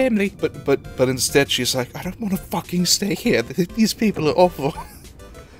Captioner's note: wheeze